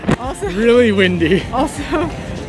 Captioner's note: wind blows